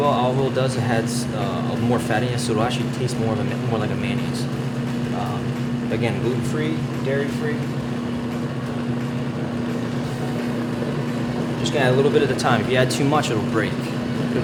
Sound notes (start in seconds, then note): 7.8 machine whirs